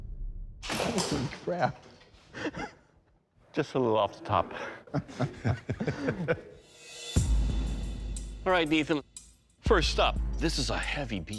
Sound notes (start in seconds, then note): 4.1 laughter